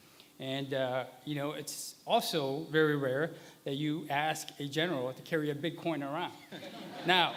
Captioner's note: laughter